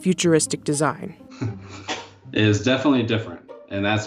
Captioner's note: chuckles